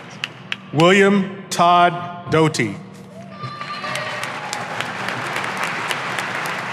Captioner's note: audience applauding